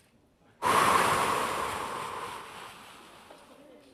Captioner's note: exhaling